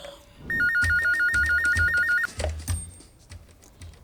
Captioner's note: telephone ringing